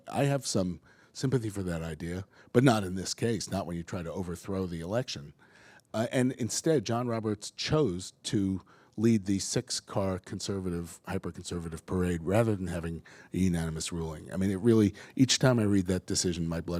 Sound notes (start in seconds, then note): none